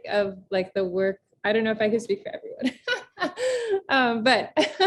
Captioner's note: laughs